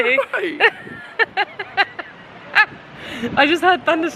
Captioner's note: laughing